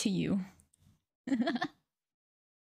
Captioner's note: laughing